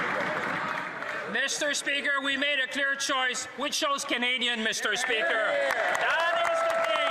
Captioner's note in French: voix de l'interprète